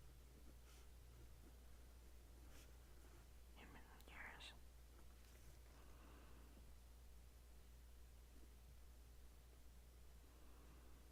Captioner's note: writing noises